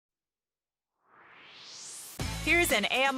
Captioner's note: swoosh